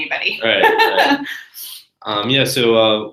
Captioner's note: laugh